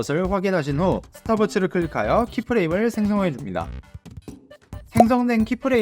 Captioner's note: Stopwatch